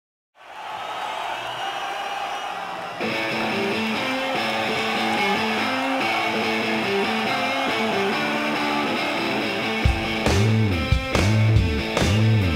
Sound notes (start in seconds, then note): 0.2 crowd cheering loudly; 3.1 upbeat guitar; 9.8 intense drums